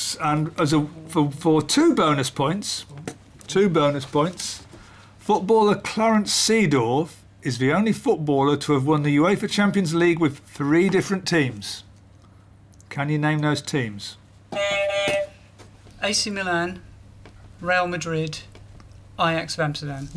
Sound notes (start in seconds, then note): 14.5 beep beep